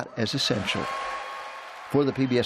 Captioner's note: cheering